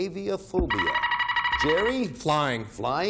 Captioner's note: buzzer beeping